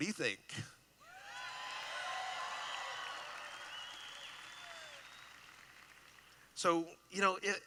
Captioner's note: cheering